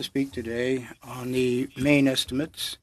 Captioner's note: speaking French